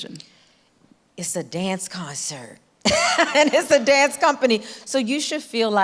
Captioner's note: laughs